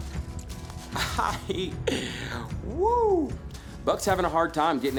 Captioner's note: laughing